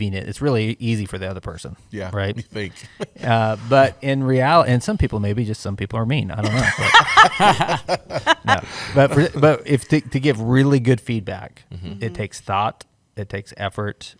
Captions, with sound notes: it's really easy for the other person, but in reality, and some people maybe, just some people are mean, I don't know. [laughter] To give really good feedback, it takes thought, it takes effort,